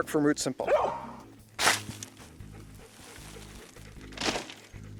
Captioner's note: dog panting